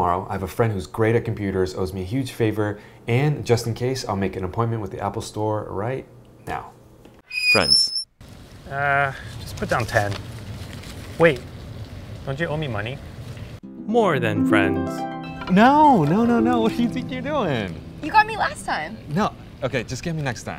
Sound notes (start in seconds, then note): 7.2 creaking sign; 13.7 harp strum